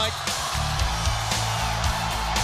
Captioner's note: crowd cheering